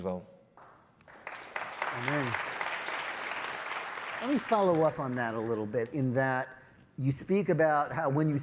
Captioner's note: applause